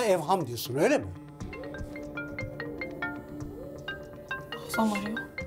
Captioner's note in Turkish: Telefon Çalıyor